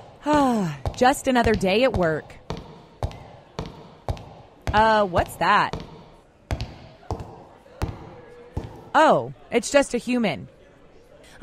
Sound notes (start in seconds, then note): 7.8 footsteps